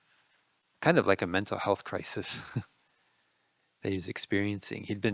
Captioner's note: laughing